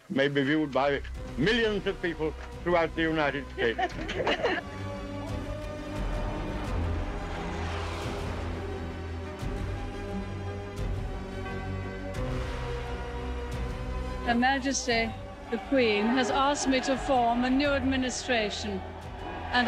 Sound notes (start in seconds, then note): 3.5 crowd laughing; 4.9 dramatic music; 7.2 jets roaring